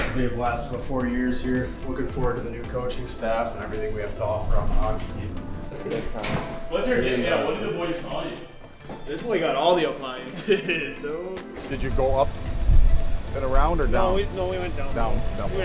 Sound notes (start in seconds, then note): 10.3 laughs